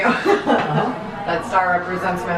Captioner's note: laughs